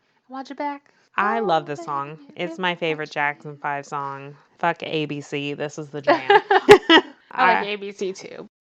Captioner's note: laughs